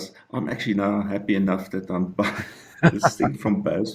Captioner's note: giggles